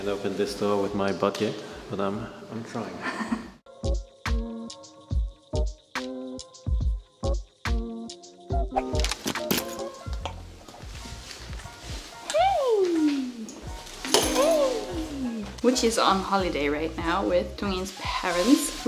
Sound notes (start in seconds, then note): 3.0 laughs; 4.3 relaxing music; 8.9 door unlocks